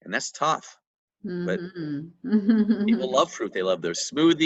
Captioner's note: laughs